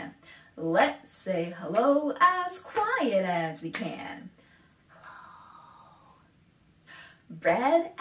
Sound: whispers

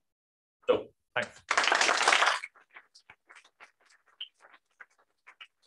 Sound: applause

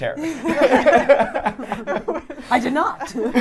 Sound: laughing

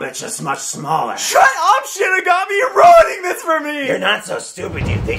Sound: half sobbing

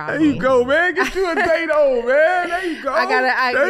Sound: Amber laughs

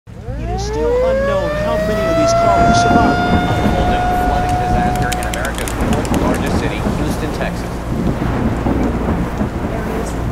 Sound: sirens, news reporting

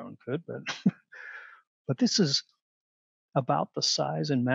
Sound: laughter

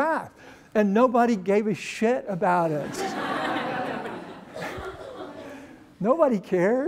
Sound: laughter

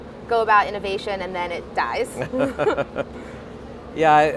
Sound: laughs

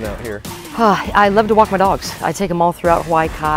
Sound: sighs

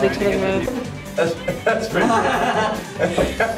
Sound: laughing

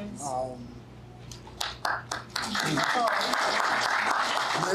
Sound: applause

